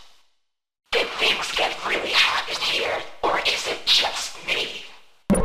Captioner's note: voice with Rapidly Shifting Pitch